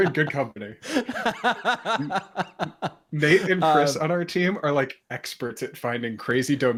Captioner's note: laughter